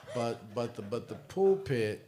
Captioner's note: laughter